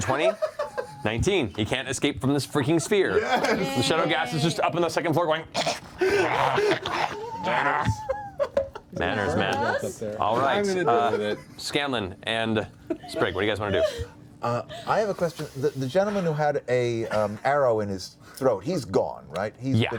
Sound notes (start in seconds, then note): 6.0 growling